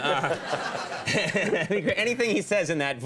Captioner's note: crowd laughing